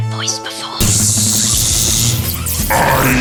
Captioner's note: fractail imitates buzzing sound